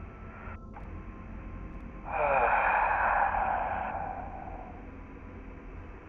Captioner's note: heavy Sigh